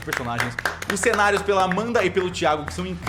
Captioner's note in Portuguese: Palmas